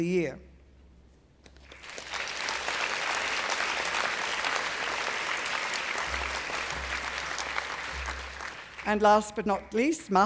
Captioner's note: applause